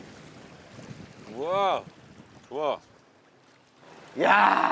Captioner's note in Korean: 감탄